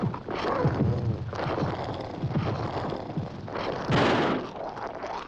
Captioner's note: estrondo de tiros